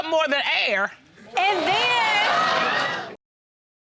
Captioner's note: audience laughs